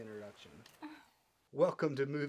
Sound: sighing

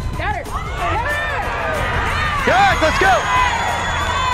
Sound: crowd jeers

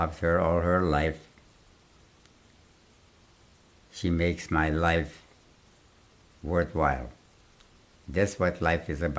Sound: pauses for 3 seconds

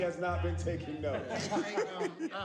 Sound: laughing

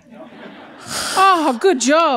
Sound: laughter

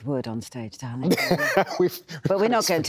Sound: laughs

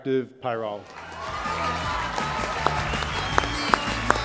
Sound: applause

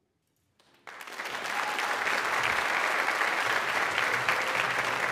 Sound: audience applauds

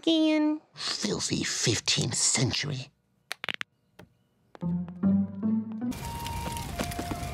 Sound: audible knuckle cracking

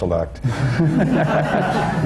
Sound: laughter

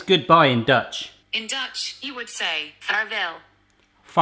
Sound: automated Voice

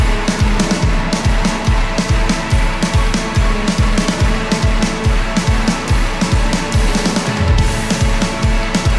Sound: cheering

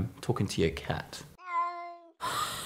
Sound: sad meow noises

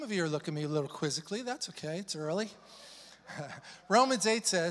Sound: chuckles

